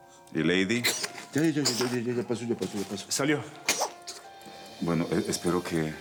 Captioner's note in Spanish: Estornudos de la niña